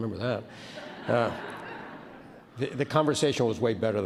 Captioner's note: laughing